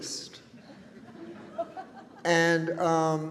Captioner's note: audience chuckles